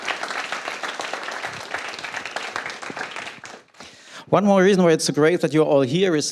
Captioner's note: applause